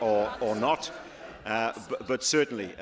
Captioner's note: laughter